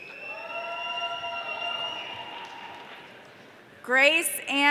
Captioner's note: audience cheering